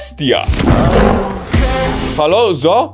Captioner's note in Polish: ryczenie lwa